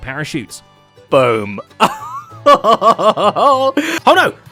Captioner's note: victorious laugh